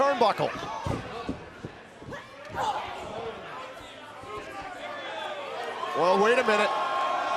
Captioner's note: crowd cheering